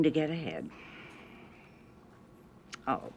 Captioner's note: sighs